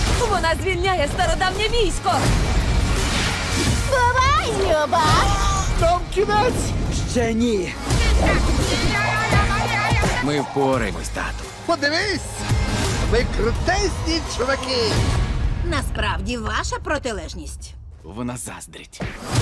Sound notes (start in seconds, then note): 5.0 Po groans; 8.6 Mr. Ping yells